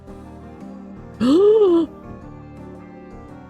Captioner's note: gasps